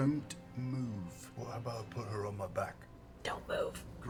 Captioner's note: whispers